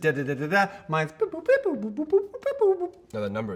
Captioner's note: making beeping noises